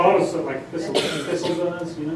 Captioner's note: normal voice